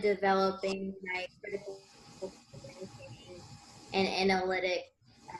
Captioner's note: interference